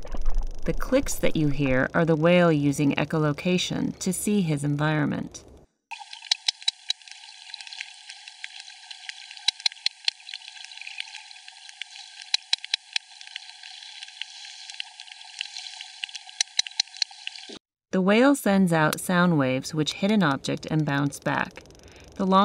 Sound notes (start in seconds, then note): 6.0 whale clicking sounds